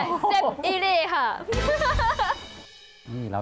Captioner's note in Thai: เสียงหัวเราะ